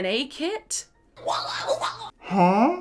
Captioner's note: person snarling